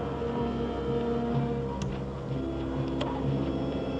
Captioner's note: panel clicks